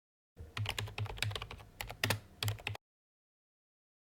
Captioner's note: typing